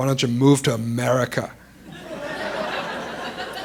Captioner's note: laughter